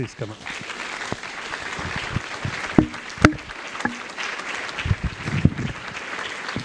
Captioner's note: applause